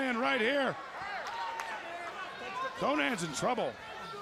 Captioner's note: crowd chatter